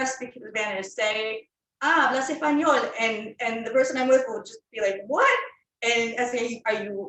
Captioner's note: Spanish